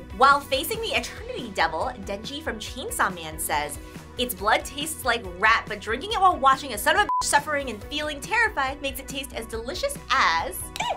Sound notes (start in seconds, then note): 7.0 beep